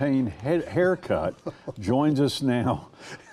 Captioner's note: laughing